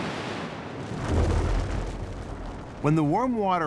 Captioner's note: iceberg rumbling